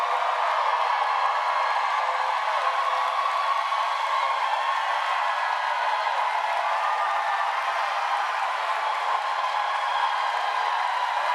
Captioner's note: applause